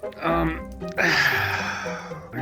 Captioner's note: sighs